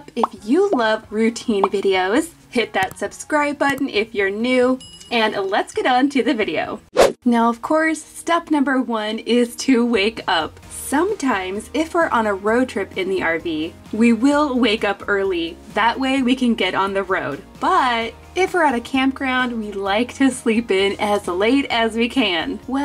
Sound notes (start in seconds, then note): 4.8 bell dings; 6.9 air whips